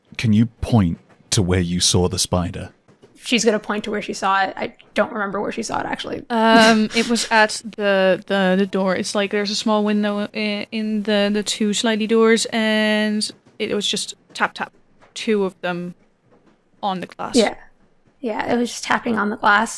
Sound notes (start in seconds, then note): 6.5 chuckles; 16.3 tap tap